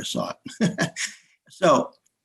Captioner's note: chuckles